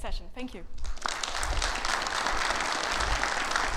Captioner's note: audience applauding